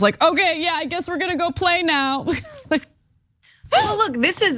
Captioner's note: laugh